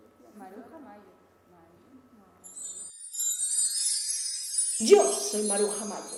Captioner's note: an apparition sound sounds